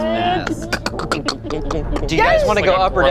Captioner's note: clunking